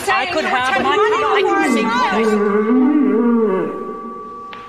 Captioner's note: moo - groan